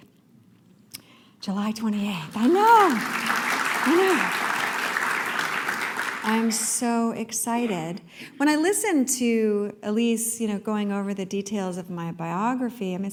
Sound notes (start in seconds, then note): 2.2 applause